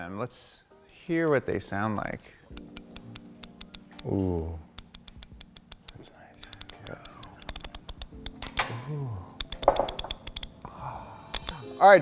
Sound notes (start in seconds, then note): 2.8 ratchet teeth clicking